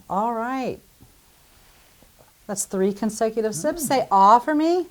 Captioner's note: gulp